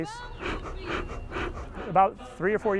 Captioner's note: puffing